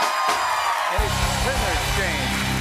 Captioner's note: cheers and applause